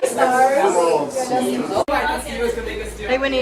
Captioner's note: general chatter